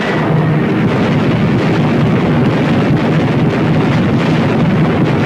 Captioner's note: cannons firing; explosions booming